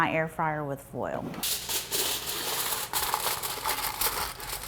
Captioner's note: foil rustling